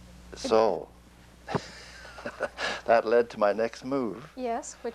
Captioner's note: laughs